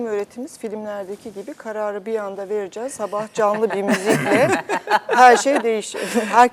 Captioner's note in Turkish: kahkaha